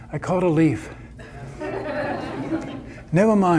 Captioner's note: audience laughter